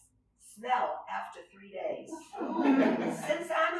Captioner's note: laughter